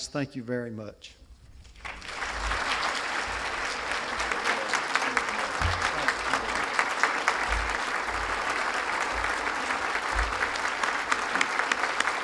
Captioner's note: applause